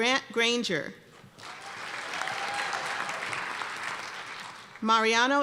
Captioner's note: cheers and applause